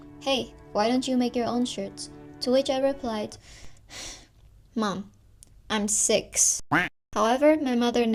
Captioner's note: sigh